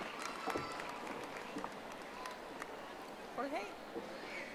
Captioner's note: audience applauding